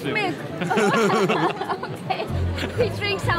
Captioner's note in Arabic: ضحك